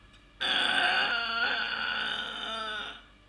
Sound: grunting

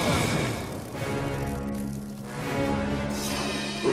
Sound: sizzling

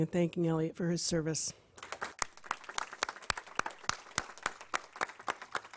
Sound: applause

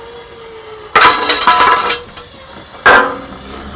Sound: clunking

